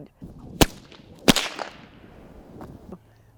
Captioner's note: whip snaps